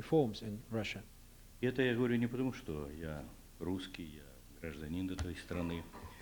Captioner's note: non-english speech